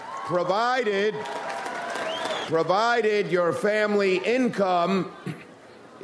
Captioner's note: audience applauds